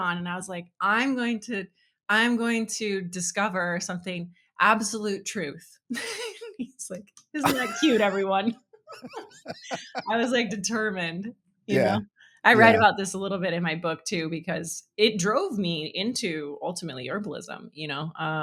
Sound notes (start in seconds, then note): 7.4 laughing